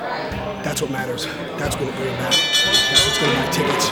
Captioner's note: bell ringing